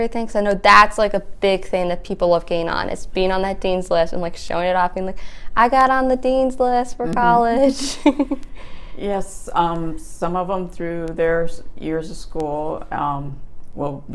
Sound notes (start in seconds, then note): 7.1 chuckles